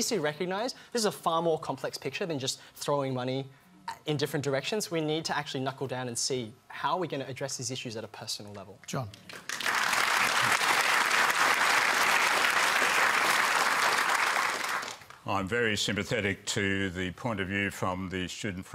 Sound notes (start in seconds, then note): 9.1 applause